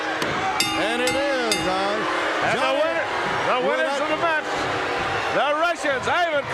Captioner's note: bell ringing